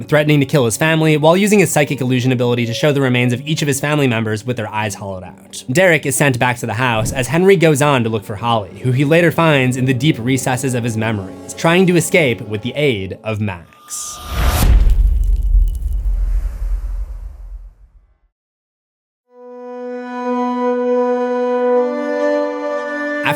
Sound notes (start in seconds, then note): 14.2 impact